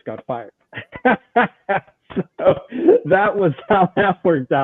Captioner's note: laughs